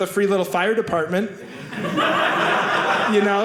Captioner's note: audience laughing